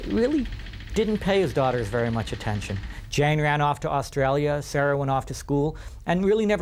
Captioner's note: none